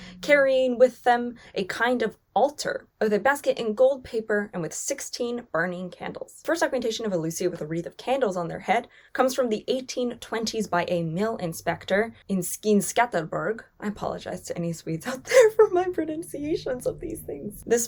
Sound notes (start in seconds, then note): 15.0 chuckles